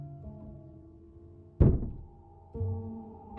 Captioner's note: knock